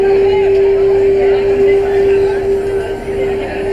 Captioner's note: crowd chattering